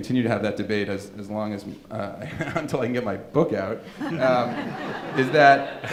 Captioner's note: laughing